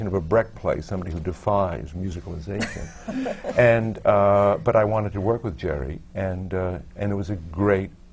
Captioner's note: laughs